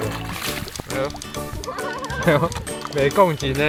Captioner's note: laughs